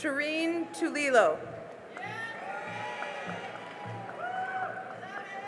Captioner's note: cheering and applause